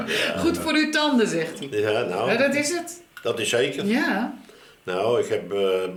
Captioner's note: both converse in dutch